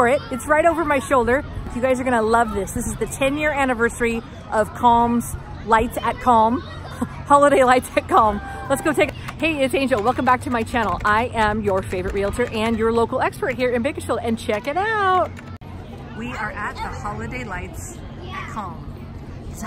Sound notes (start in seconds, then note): 6.7 chuckling